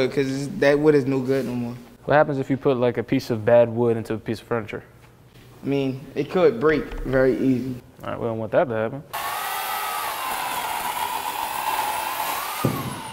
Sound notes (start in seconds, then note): 9.1 chainsaw whirs